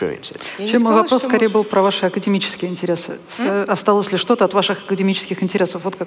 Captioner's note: foreign Language